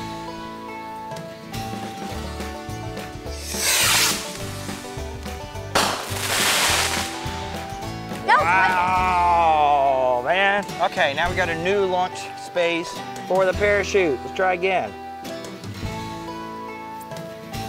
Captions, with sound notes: (uplifting music) (firework whooshes) (firework pops) (firework crackles) - That was wonder. - Wow, man. Okay, now we gotta new launch space for the parachute. Let's try again.